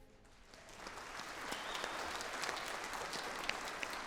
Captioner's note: audience applauds